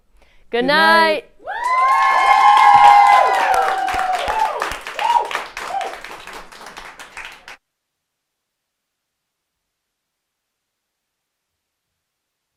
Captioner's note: applause